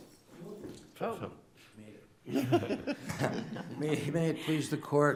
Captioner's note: justices chuckling; chuckles